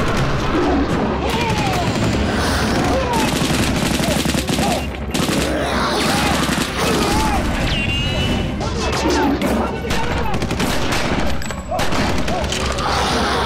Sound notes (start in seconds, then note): 4.5 growling; 4.5 men chattering; 9.6 guns blasting